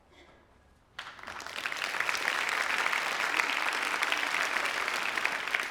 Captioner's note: students clapping